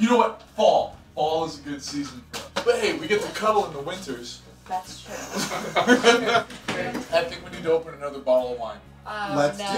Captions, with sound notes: - You know what? Fall, fall is a good season for us. But hey, we get to cuddle in the winters. - That's true. (laughing) - I think we need to open another bottle of wine. - Oh no.